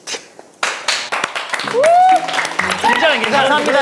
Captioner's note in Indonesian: Tepuk tangan